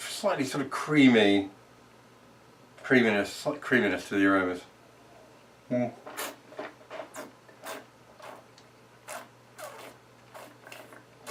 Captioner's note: slurping